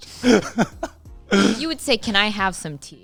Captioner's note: laughing